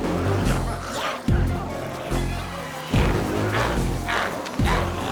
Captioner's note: glowzies growling; intense music continues